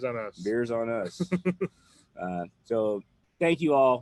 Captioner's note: laughs